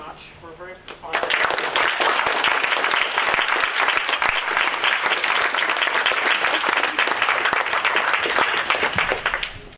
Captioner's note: audience clapping